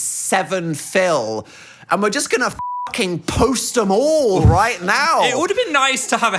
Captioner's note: beep